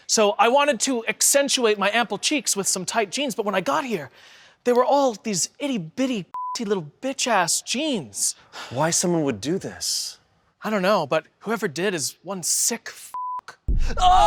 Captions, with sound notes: so I wanted to accentuate my ample cheeks with some tight jeans but when I got here, they were all these itty bitty (beep) little bitch ass jeans. - Why someone would do this? - I don't know, but whoever did is one sick (beep).